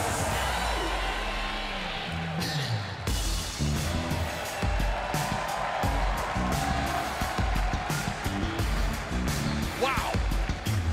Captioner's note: crowd cheering